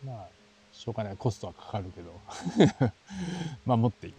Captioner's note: laughs